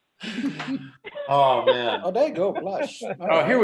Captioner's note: laughter